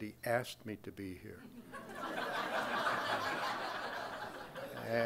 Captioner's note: crowd laughing